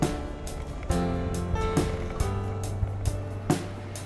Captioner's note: road noise